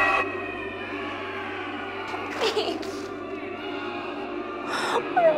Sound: Jeana weeps

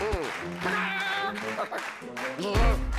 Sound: worried grunt; sheepish laugh

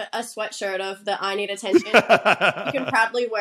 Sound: laughs

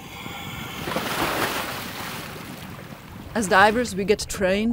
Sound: splash

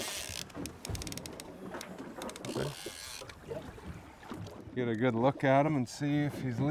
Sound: reel cranking

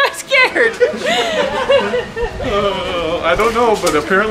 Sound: laughing

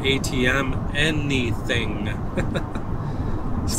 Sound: chuckles

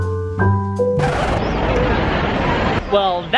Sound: record scratching

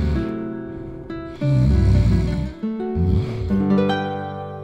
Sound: the spooky dog snores

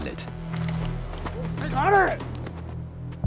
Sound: yells; speaks in foreign language

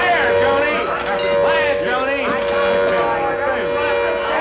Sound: sirens blare

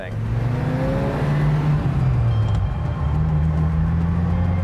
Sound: engine revving

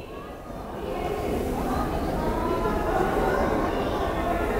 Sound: crowd chattering

